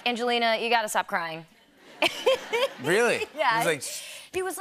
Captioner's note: laughter